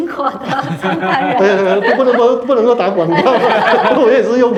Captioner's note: laughter